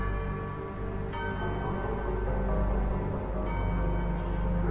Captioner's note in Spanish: Campanadas